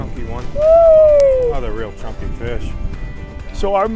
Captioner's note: hollers